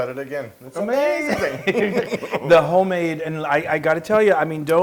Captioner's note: laugh